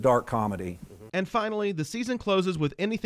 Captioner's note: voiceover